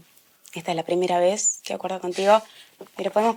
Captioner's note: laughing